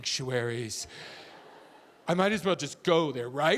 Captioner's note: audience laughing